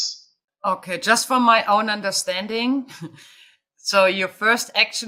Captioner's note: chuckling